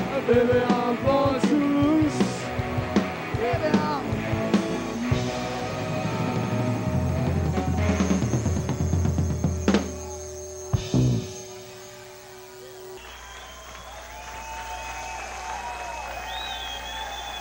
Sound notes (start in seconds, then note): 13.1 crowd cheering